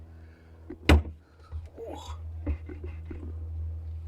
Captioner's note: grunting